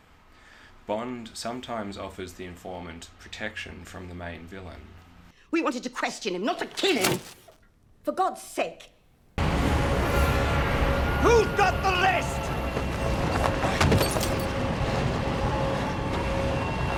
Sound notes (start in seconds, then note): 6.7 thud, paper rustling; 13.2 wind whistling, coat flapping, heavy breathing